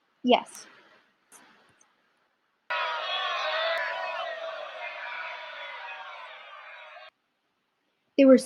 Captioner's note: battle cry